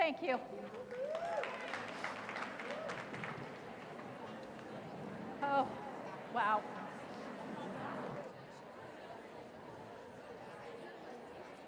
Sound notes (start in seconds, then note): 2.2 cheers; 6.8 chatter